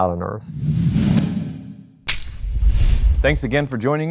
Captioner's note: logo whooshes